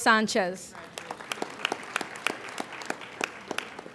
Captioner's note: applauding